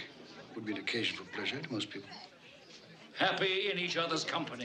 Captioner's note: none